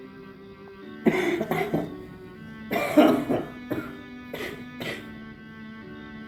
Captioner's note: dramatic music plays; severely coughs